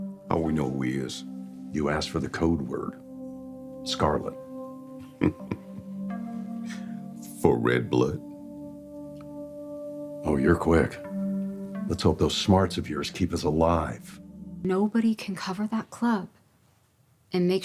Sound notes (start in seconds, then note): 5.0 chuckles